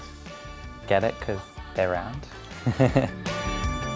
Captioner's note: chuckles; spirited music